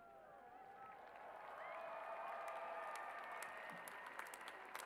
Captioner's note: cheers and applause